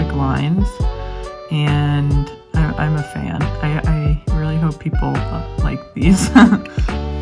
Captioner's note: laughs